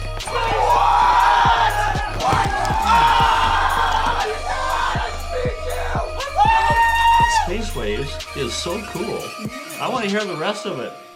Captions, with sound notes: Say what? [yelling] -Oh! I beat you! Woo! -What? No! Space Waves is so cool. I want to hear the rest of it.